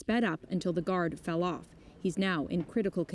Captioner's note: speaking french